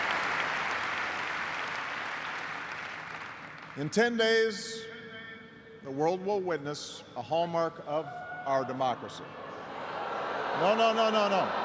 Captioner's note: cheers and applause